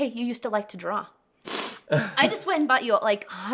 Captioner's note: sniffs